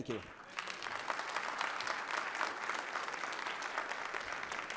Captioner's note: audience applauding